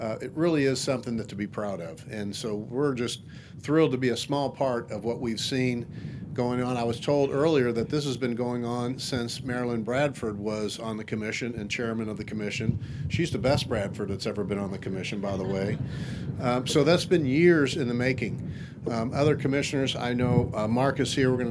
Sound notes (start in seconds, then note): 15.3 audience laughing